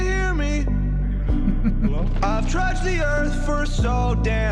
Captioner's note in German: kichert